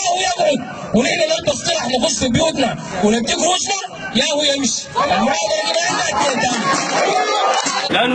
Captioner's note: shouts of approval